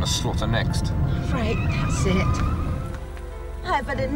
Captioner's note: brakes screeching